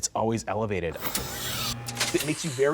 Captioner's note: electrical buzzing